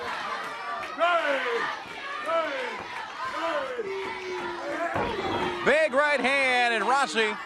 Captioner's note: crowd cheering